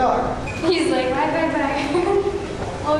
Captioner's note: laughter